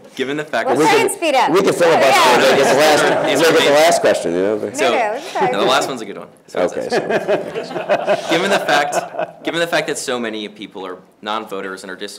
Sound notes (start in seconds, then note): 6.8 laughter